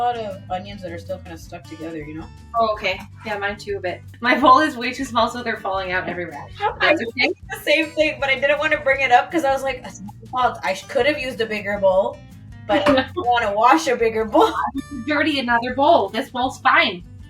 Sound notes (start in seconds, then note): 6.1 laughs